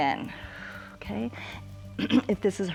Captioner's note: exhales